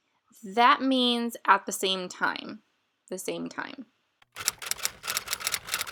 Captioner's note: typewriter sounds